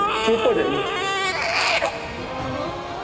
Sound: Alia wails

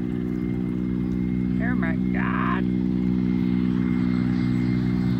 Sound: louder humming noise

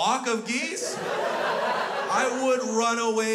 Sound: crowd laughs

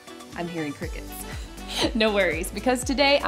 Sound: chuckles

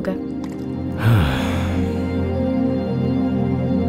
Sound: sighing

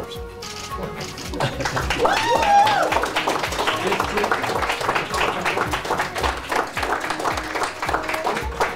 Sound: hands clapping

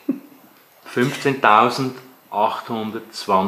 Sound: camera operator giggles

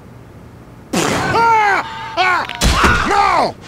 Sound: heavy laughing out loud

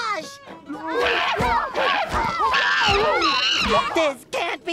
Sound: grunting

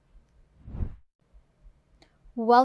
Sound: air whooshes

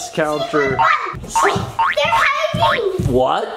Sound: spring bouncing

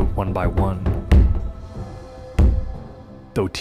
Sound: pounding thuds

